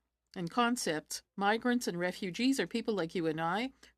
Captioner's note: speaking French